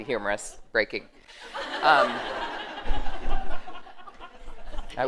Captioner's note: laughter